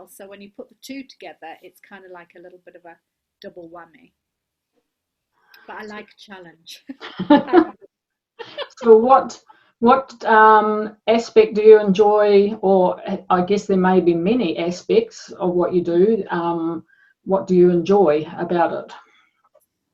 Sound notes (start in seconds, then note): 6.8 both laugh